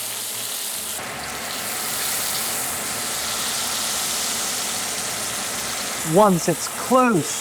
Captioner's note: sizzling sound